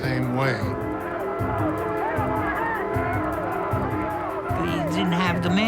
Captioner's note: yelling, horns honking in background